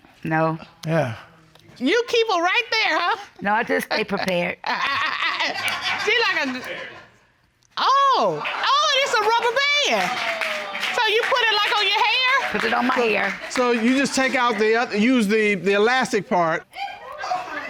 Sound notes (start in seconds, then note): 4.6 Judge Dana laughing